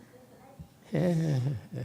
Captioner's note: laughs